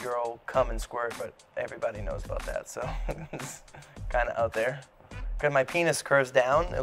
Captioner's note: laughs